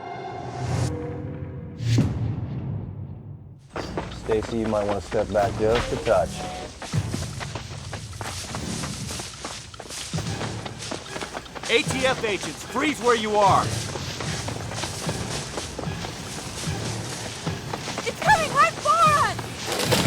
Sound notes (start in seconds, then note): 6.6 branches rustling; 18.8 screams